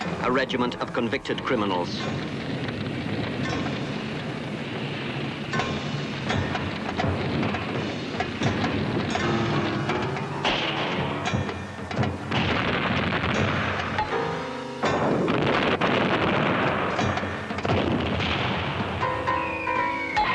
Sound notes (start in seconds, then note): 11.6 guns firing; 15.0 explosions booming